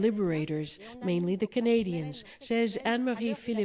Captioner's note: speaking French